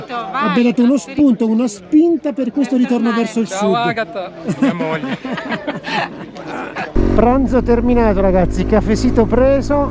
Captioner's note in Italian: Risate